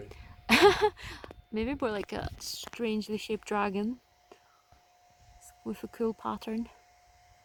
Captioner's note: laughs